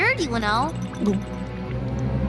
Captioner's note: gulp